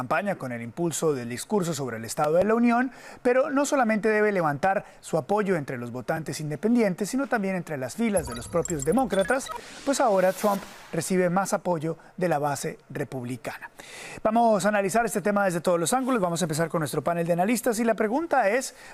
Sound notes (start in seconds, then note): 6.6 HABLA EN INGLéS